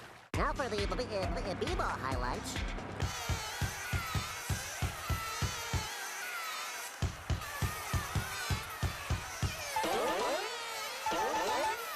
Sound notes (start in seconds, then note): 0.0 water splashing; 3.0 bees buzzing; 9.5 twanging